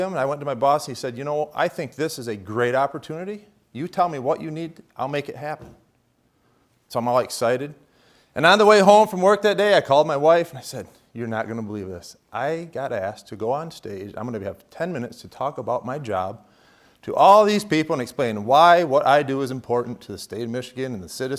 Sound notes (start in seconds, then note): none